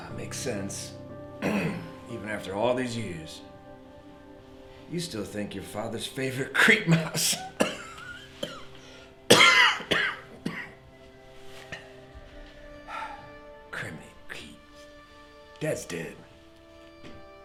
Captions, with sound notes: Makes sense. (somber music) Even after all these years, you still think your father's favorite creep mouse. (cough rasping) Crimeny Keaton, dad's dead, been dead.